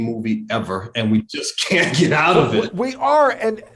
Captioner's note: laughs